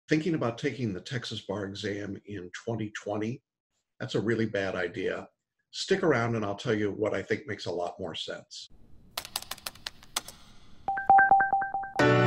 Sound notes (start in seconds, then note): 9.1 keyboard clicking; 10.3 bell dinging; 10.9 happy music